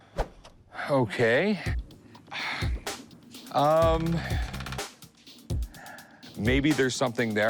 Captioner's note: sighs